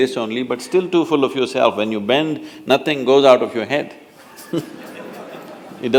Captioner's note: laughter